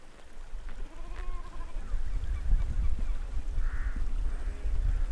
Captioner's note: sheep bleating